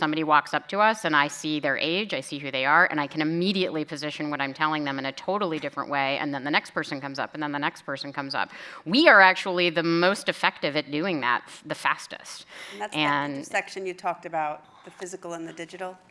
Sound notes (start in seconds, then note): none